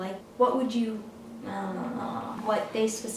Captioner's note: vocalizes